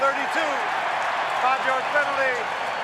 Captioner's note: cheering